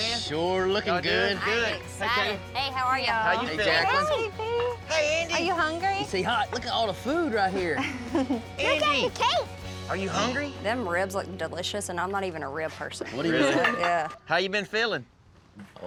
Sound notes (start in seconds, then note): 13.2 everyone chuckles